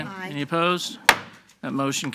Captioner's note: gavel banging